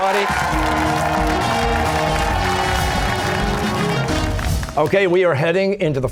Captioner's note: cheers and applause